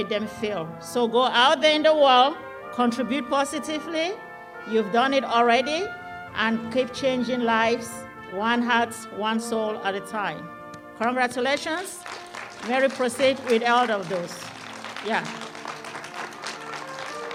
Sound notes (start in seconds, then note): 11.5 applause